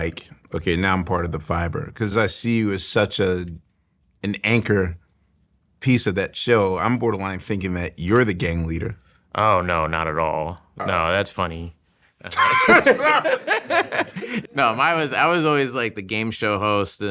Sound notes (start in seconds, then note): 12.3 laughing